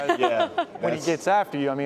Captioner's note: laughter